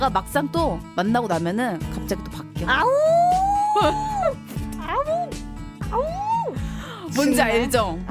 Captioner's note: wolf cry